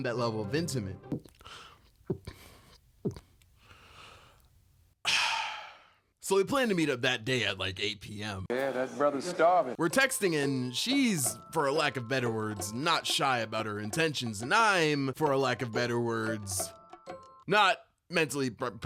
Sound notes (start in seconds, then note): 5.0 gulp gulp gulp..ahhhh